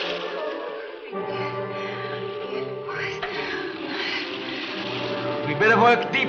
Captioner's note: Ann whispers unintelligibly